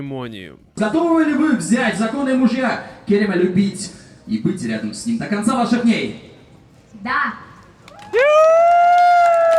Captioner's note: applause